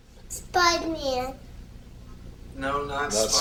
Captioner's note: none